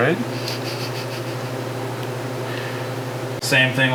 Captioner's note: snickering